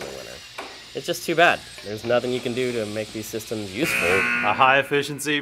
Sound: buzzer

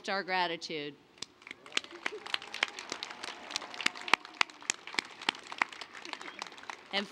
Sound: applause

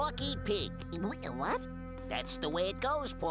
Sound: stutters

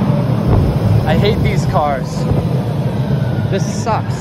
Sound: train

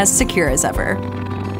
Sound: cat purring

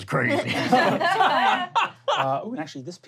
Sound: laughing

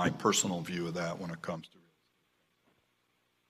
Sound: audio cuts out

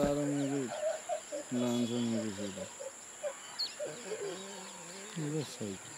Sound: continues laughing

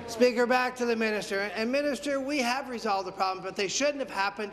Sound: conversation din

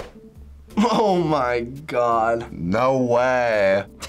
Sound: laughs

